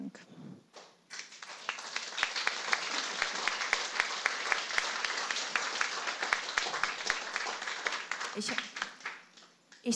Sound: applause

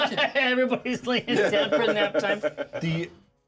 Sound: speaker laughs; laughs

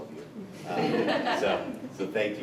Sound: people chuckling

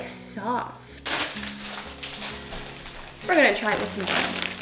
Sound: bag rustles

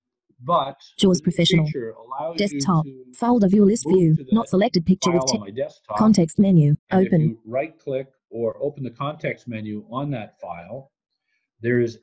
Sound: JAWS heard reading in the background

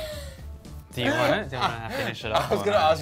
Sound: laughing

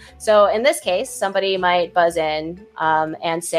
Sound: none

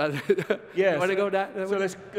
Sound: laughs

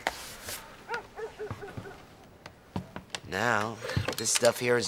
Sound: dog barking in distance

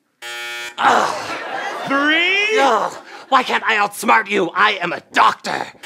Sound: buzzing

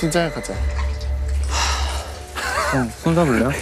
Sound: sigh

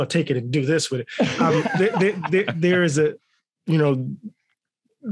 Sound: all laughing

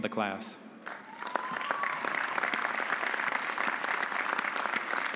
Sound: audience applauding

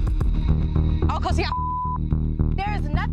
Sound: beep

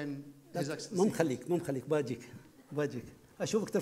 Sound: speaking foreign language

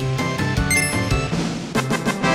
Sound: triumphant music; collectable chimes

